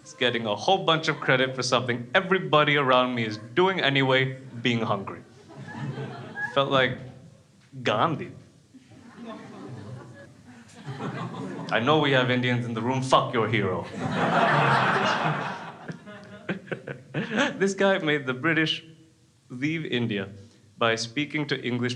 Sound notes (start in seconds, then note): 0.0 crowd laughs; 13.8 crowd laughs